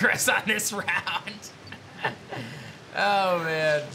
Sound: laughs

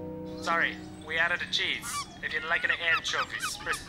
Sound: robot Voice

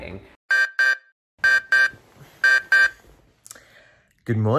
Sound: alarm beeping

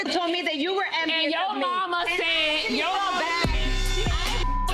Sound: beep

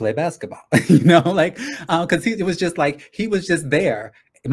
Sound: laughs

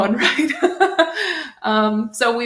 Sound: laughs

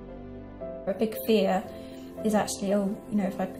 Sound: voiceover

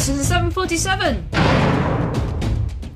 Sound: crash

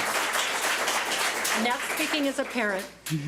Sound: public applauding

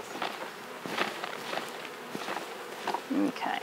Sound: bees buzz

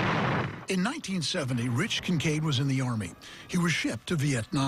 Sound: gunfire

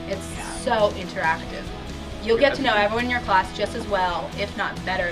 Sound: laughs

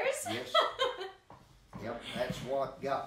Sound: chuckling

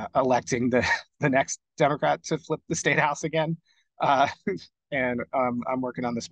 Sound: laughing

